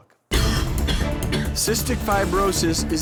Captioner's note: man coughs